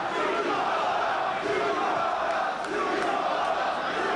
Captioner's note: crowd chanting